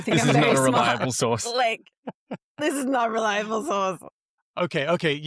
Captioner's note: laughs